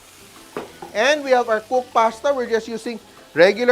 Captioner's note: sizzles